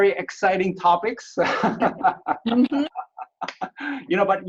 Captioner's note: laughs